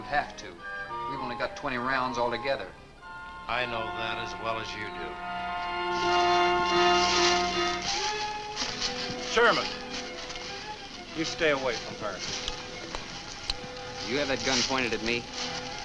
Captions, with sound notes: We've only got 20 rounds all together. - I know that as well as you do. (leaves rustle) Sherman. You stay away from her. - Do you have that gun pointed at me?